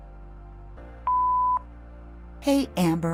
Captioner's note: beep